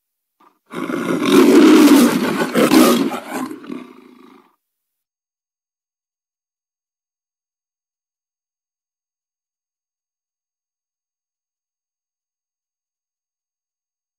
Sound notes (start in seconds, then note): 0.7 Leo the Lion roaring; 5.2 silence